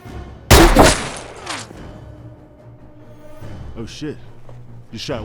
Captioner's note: gunshot bangs